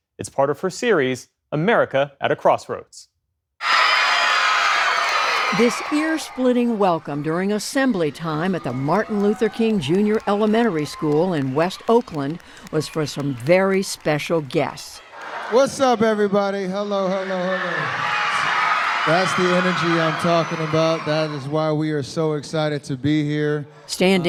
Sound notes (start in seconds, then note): 3.4 cheering; 18.1 cheering